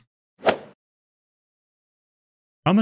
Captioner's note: golf ball hit sound